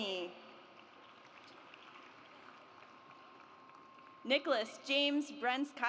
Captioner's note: audience applauds